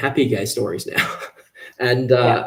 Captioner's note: laughs